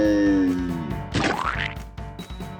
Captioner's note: splat